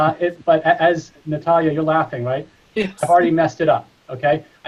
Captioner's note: chuckles in the background